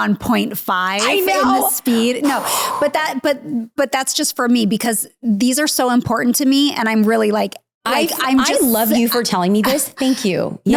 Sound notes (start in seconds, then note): 2.2 exhales loudly